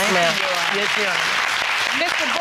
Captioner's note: applauding